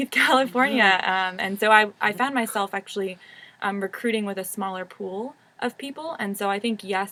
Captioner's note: laugh